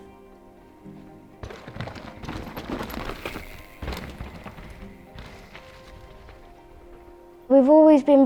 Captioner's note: bike impacting ground and whooshing past